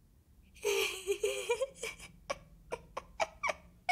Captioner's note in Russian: Нервный смех